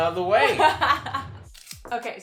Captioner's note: laughs